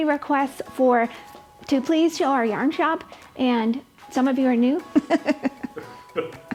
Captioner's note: laughs